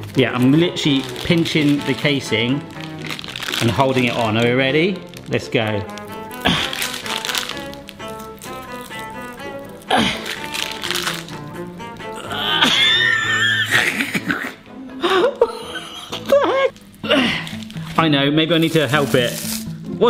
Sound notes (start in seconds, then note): 5.3 upbeat music; 5.8 groaning; 14.3 laughing